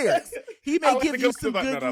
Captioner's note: laughing